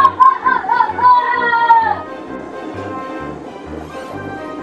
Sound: evil assistant evil laughs

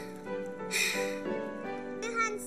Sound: sighs

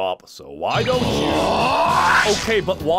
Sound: screaming

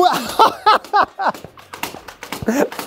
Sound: laughing

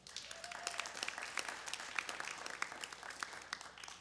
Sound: audience claps

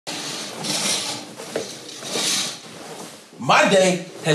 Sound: curtain opens

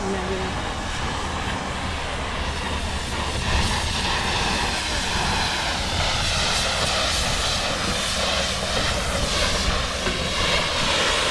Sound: water sound

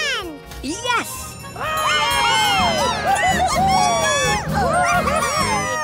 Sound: cheering

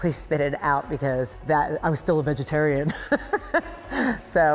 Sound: laughs

